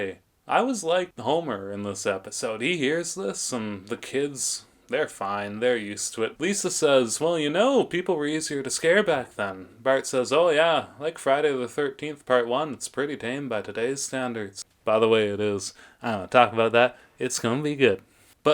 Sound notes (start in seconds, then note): none